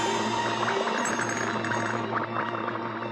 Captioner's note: clattering